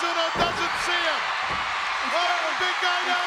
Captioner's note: audience cheers